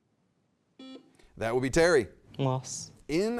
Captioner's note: buzzer beeps